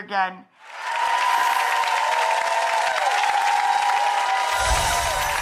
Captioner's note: audience cheering